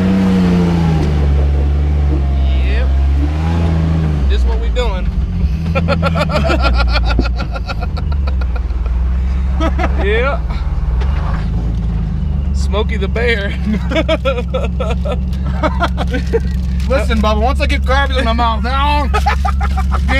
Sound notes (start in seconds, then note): 5.4 laughs; 13.6 laughing